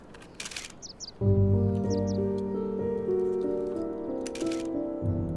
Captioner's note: camera shutter snapping